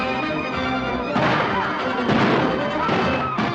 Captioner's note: gunshots